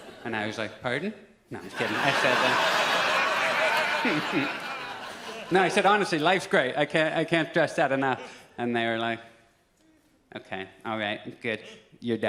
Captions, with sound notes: And I was like, "Pardon?" No, just kidding. (audience laughs) No, I said, "Honestly, life's great. "I can't, I can't stress that enough." And they're like, "Okay, all right, good. You're done."